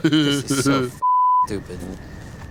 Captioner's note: beeping